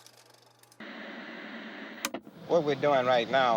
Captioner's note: film reel whirring; TV static hissing